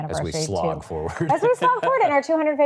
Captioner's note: laughs